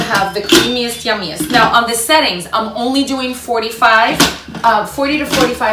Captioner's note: Instant Pot beeps